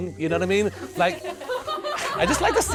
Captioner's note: laughing